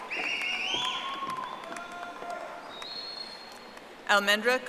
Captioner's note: audience applauding